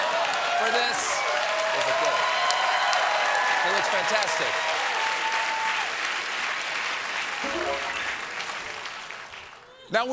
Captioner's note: cheers and applause